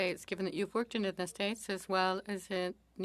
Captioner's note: speaking French